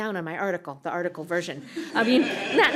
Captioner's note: laughter